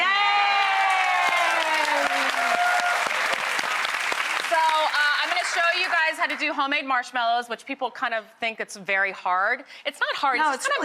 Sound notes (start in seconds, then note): 0.0 Rachael Ray and audience cheering; 2.3 applause